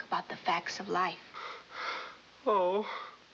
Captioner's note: gasping